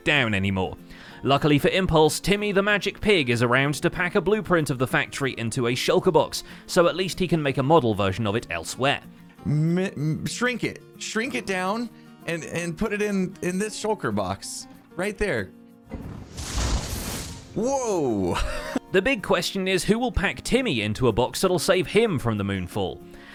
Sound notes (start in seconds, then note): 15.9 magical noises